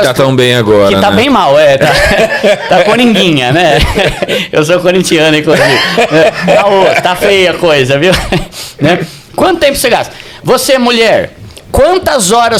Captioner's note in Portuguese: risadas